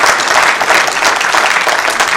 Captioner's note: applause